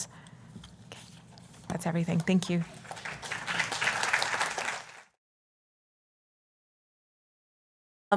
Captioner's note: applause